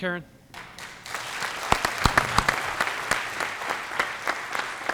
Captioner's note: applause